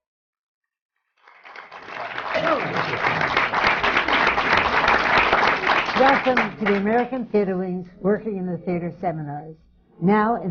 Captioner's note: applause